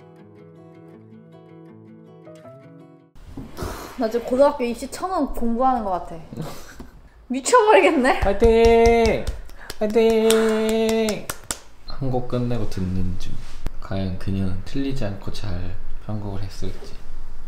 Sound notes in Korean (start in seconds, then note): 8.2 박수치며